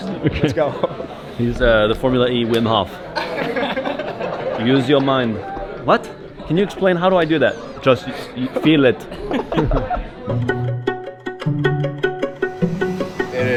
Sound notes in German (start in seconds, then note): 9.0 lacht